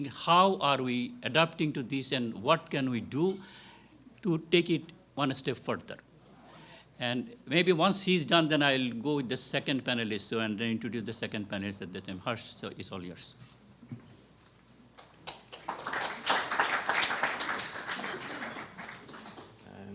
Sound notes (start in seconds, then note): 14.9 applause